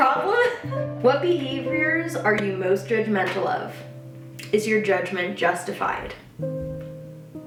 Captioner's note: stammers